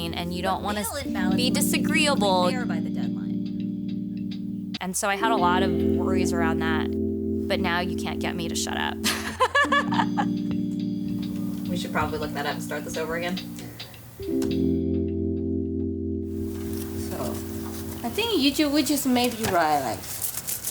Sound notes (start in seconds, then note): 9.0 laughing; 14.4 soft music